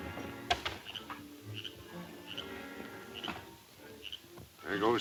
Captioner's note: frog croaking; suspenseful music